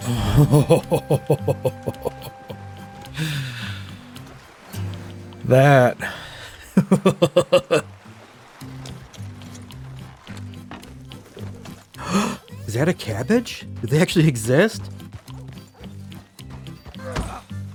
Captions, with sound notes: [LAUGHTER] That. [Gasps] Is that a cabbage? Did they actually exist?